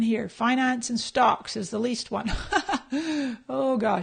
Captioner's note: laughs